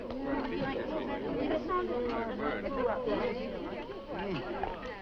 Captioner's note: people chattering